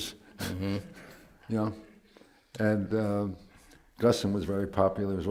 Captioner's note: laughs